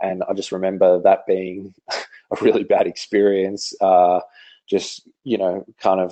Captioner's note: laughs